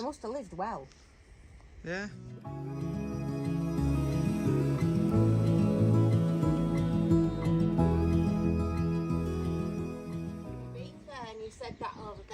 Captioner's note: laughing